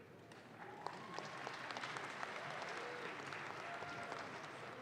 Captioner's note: audience claps